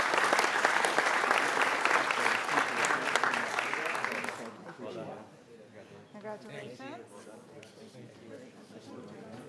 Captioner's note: applause